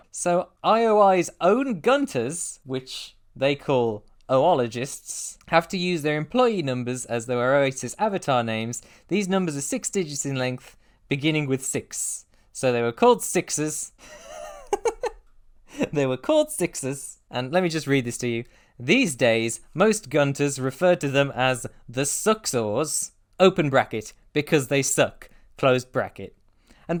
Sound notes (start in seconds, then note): 14.0 laughter